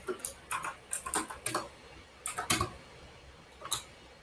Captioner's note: keyboard clacks